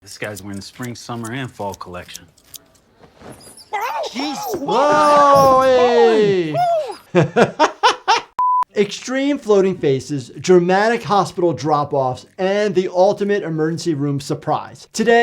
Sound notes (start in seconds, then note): 3.3 rats squeaking; 7.3 laughs